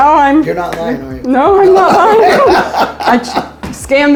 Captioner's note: laughs